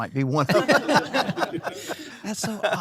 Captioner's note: laugh